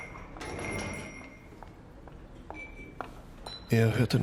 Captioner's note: doorbell jingles; door closes; footsteps depart